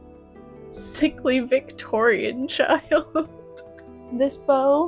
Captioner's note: laughter